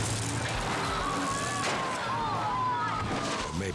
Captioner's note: people exclaiming; biker thuds